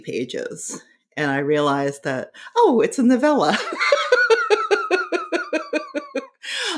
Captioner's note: laughing